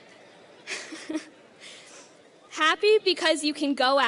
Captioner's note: laughing